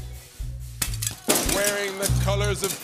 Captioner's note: announcer voice